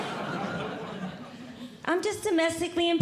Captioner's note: audience Laughing